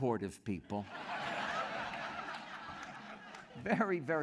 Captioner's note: laughter